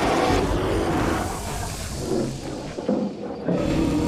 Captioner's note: bear growling